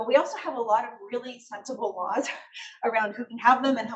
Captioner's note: laughs